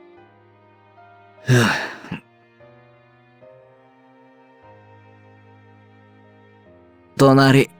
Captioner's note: sigh